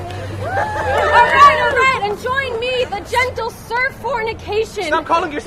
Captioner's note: cheers